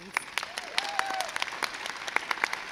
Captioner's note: crowd cheers